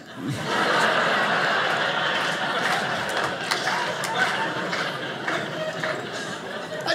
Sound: audience laughing

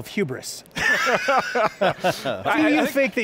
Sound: all laughing

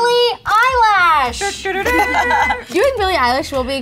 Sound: laughing

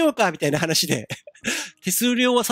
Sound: giggle

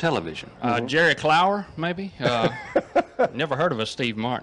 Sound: laughs

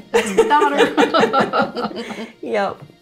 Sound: laughter

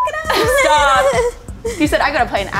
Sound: laughing; beep

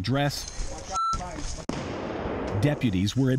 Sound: grenade explodes

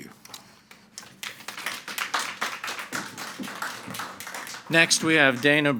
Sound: everyone applauding

